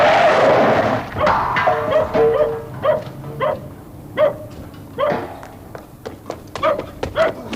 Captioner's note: tyres screech; metal clangs; dog barks